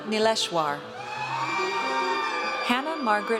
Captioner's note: audience cheers